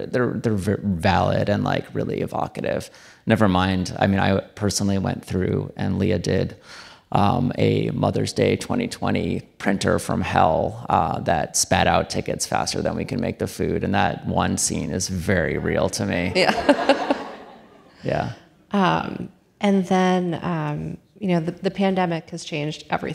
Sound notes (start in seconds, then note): 16.4 audience laughing